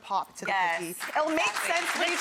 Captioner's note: audience applauding